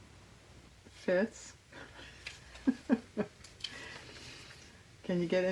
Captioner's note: laughs